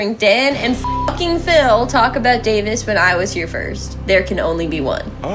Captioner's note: beep